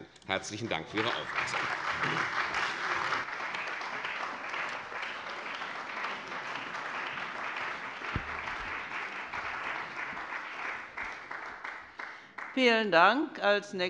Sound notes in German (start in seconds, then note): 3.4 Beifall bei der CDU und dem BÜNDNIS 90/DIE GRÜNEN